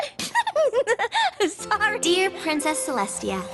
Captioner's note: laughs